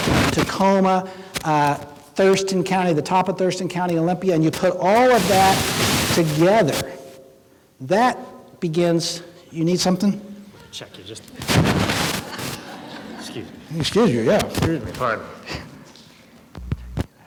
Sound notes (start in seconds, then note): 11.9 laughing